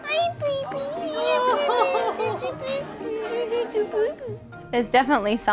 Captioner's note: baby talking